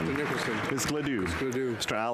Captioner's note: speaking French